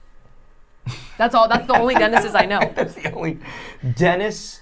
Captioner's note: laughing